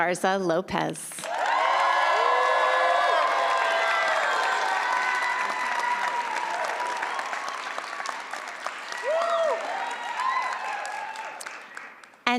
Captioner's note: applause